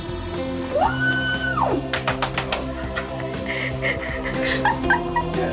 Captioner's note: they cheer and clap